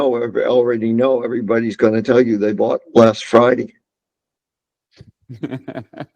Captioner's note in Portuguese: risos